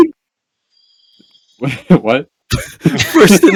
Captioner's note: confused